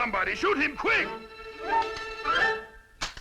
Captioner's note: clicking